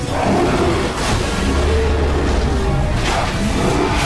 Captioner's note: roars